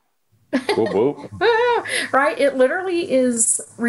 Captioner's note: laughing